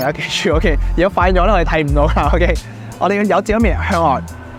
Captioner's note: laughs